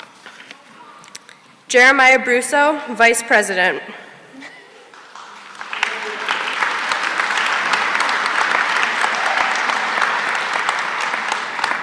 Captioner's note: applause